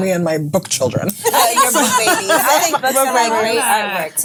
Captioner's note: ladies laughing